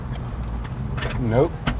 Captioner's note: clunking